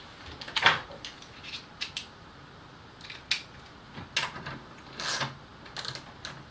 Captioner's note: clicks of mounting socket